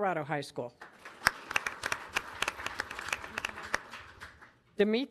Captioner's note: audience applauding